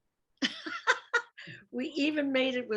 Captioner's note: laughs